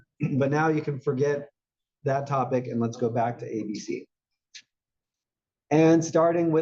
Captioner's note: cough